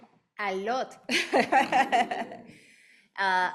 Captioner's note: laughing; audience laughing